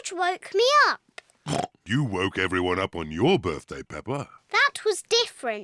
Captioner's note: oinks